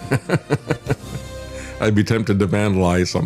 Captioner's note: laughs